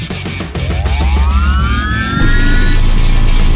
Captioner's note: machine whirring; electricity crackling